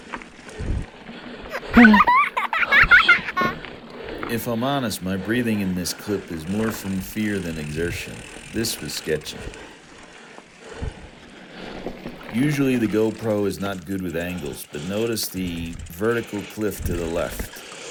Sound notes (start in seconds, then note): 1.5 random child's giggle used as censor noise; 3.0 heavy breathing